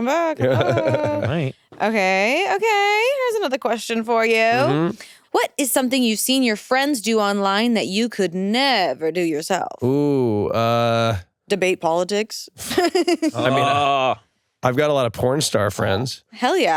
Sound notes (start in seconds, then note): 12.8 laughs